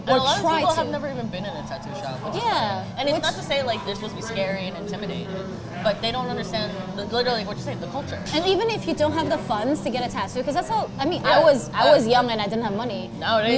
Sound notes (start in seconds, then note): none